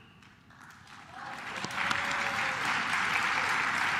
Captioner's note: claps